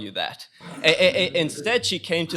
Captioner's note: chuckling